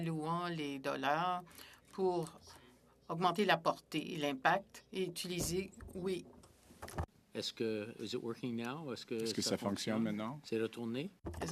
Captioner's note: speaking French